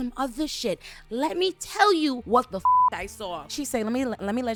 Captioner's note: beep